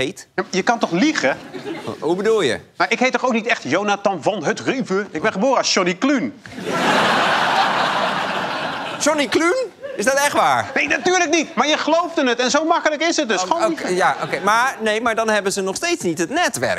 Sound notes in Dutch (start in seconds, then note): 6.4 gelach